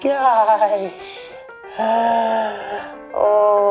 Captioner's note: gasping